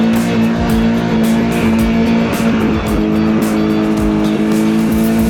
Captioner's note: engine revving